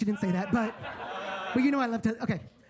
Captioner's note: attendees laughing